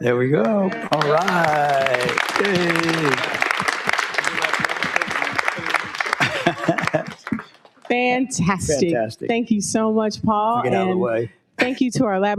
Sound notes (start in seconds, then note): 2.0 audience applauds